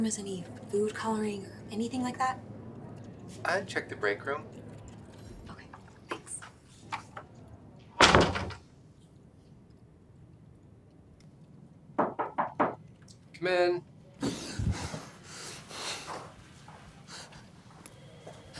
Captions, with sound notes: has any food coloring or anything like that? - I'd check the break room. - Okay, thanks. (knocking) - Come in. (panting)